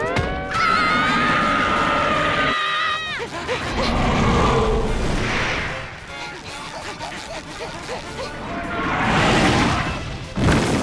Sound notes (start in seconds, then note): 0.4 screaming; 3.3 panting; 3.7 roaring; 6.2 panting; 8.2 roaring